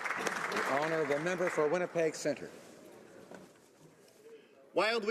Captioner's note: some Applause